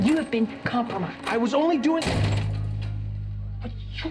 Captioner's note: door slam